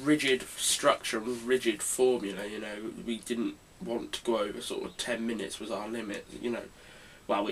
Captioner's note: none